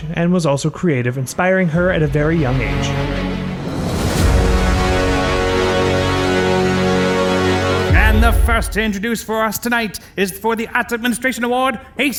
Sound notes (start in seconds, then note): 4.4 logo whooshing; 4.4 tense dramatic music